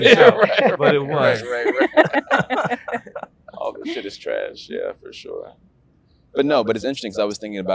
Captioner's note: interviewees laugh